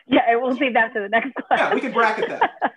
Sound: laughter

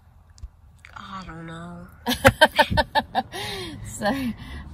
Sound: chuckles

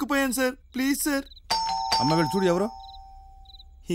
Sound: door bell rings

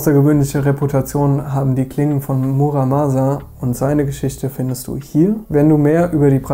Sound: German

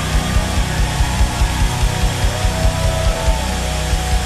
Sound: crowd cheering

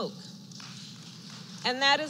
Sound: applause

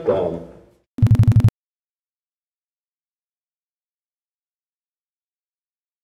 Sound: device beeps softly

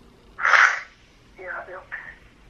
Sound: sniffles

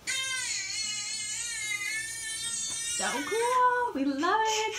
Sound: baby still crying

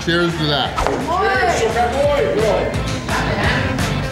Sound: crowd

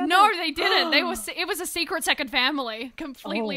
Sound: gasps

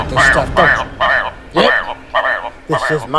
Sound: bird Sounds

